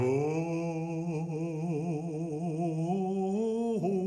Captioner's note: man vocalizing